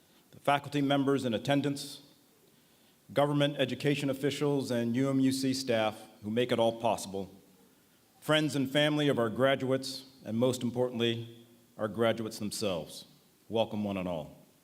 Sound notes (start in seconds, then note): none